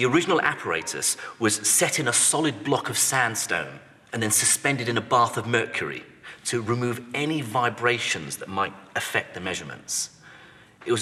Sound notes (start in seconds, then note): none